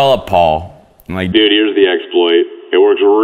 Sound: voiceover

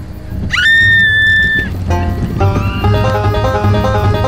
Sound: screaming

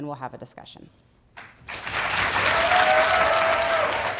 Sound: cheering

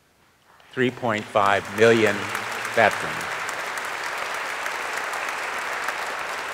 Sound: audience applauding

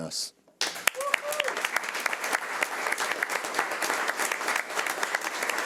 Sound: audience clapping; audience cheering

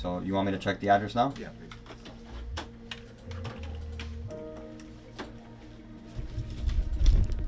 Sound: keyboard clicking

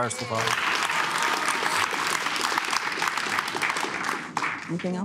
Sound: applause

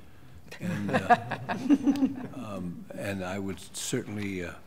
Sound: laughter

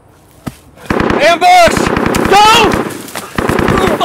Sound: gun shots begin blazing

